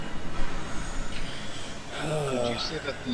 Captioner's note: heavy sigh